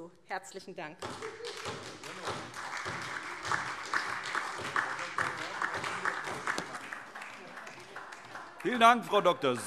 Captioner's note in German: Beifall SPD und DIE LINKE